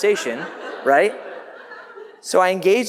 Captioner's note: audience laughs